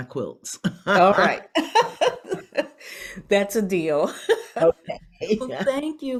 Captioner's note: laughs